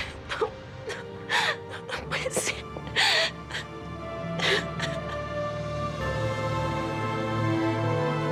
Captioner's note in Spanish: sollozos